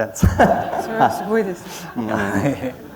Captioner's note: laughter